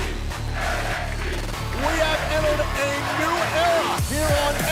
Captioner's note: fans chanting